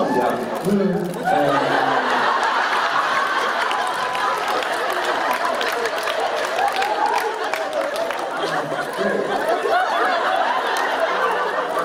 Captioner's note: laughter